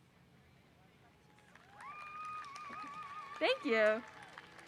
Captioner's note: audience applause